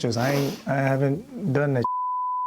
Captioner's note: sniffling; beep